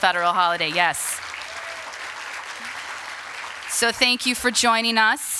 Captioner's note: applause